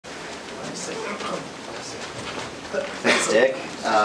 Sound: background chatter

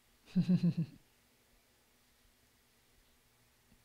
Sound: chuckles

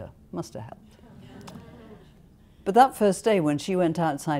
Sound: laughter

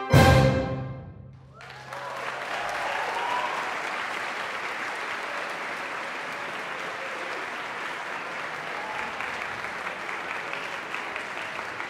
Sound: audience applause

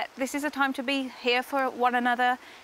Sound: none

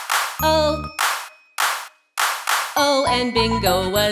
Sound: hands clap

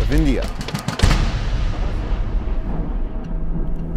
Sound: explosion

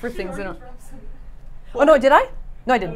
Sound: chattering

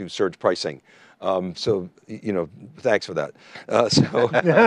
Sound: chuckles

